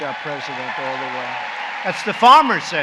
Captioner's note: applause